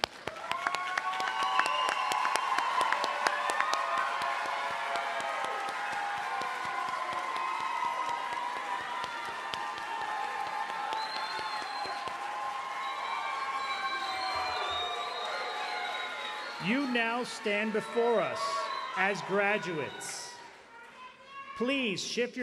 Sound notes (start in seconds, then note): 4.5 applause; 5.3 cheering and applause